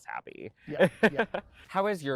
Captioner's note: laughing